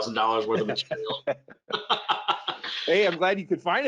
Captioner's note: both laugh